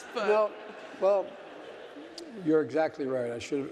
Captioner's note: audience laughing